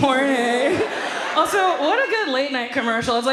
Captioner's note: audience laughs